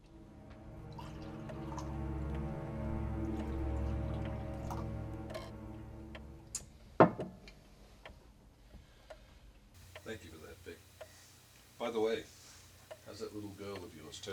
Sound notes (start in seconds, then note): 0.8 splashing